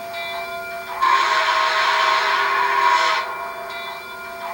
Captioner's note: whistle